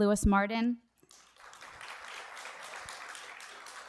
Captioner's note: applause